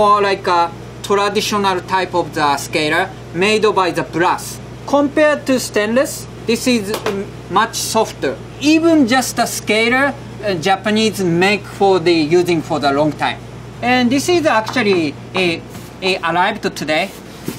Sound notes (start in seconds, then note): 6.9 scaler tapping